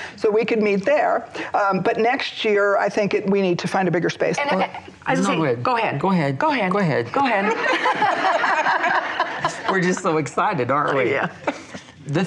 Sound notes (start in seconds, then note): 7.5 chuckling